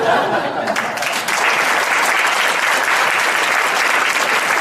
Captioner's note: audience applauds